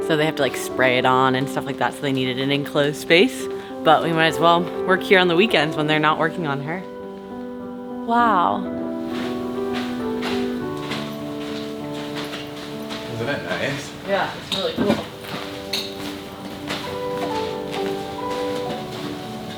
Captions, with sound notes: So they have to, like, spray it on and stuff like that. So they needed an enclosed space. But we might as well work here on the weekends when they're not working on her. Wow. (calm piano music continues) (footsteps) - Isn't it nice? - Yeah, it's really cool. (footsteps)